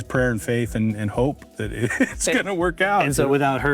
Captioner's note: laughs